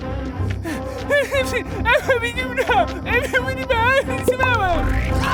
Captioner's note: speaking frantic gibberish